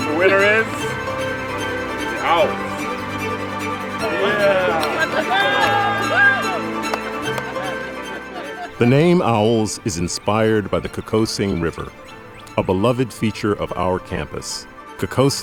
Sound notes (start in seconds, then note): 0.0 laughing; 4.0 cheering